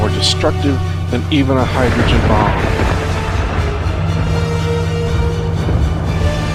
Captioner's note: bomb explodes